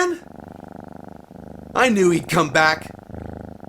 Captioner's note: cat purring; cat whining